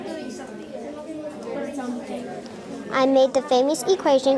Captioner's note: students chattering